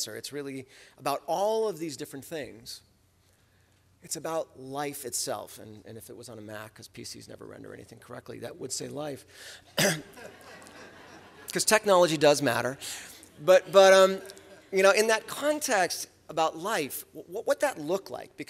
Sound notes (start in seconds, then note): 9.8 laughter